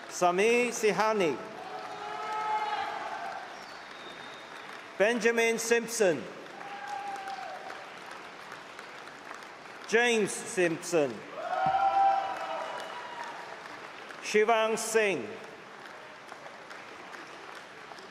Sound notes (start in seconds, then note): 6.7 applause and cheering; 12.5 cheering